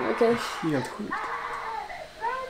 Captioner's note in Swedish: skrik